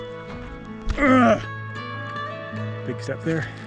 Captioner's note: power grunt